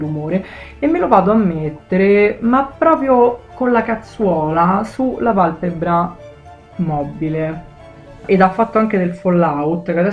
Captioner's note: italian slang